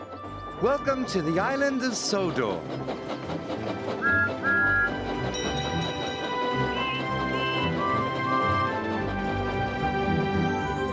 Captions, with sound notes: Welcome to the island of Sodor." [toot toot] [bell ringing] [beep beep]